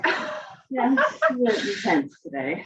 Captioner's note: they laugh